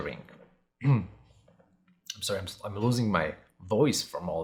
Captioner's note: clears throat